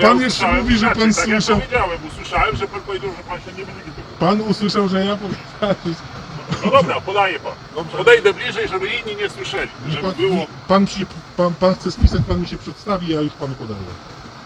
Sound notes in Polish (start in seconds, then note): 6.2 śmiech